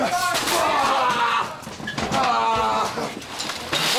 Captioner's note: Booker groans